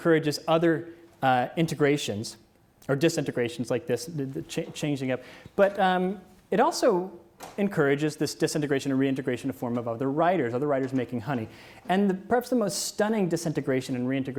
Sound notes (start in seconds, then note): none